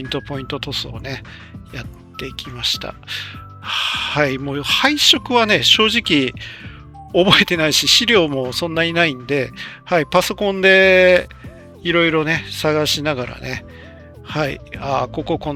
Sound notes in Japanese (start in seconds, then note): 3.8 ため息